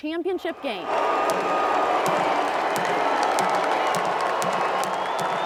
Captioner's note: crowd cheering